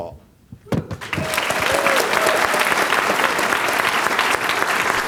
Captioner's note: applause